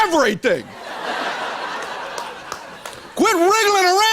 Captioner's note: laughter